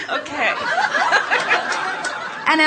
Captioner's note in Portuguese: A platéia ri